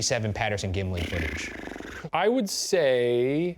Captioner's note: sharply exhaling